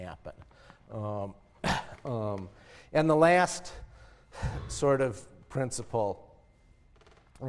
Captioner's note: cough